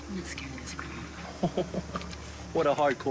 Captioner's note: laughing